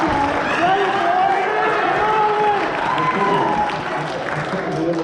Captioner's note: laughter